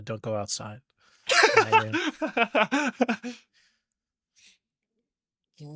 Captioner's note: laughing